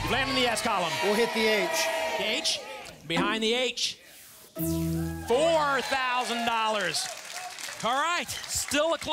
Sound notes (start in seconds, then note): 5.4 audience applause